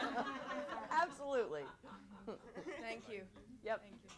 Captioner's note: laughter